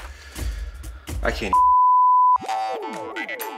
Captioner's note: broadcast signal